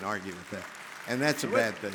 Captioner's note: audience clapping